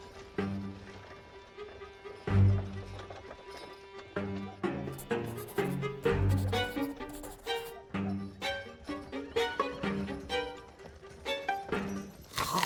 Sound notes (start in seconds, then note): 4.0 suspenseful music continues; 4.9 pencil scribbling; 8.7 curious music